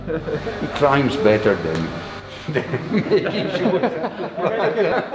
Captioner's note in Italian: laughing